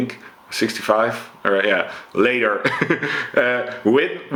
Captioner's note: chuckles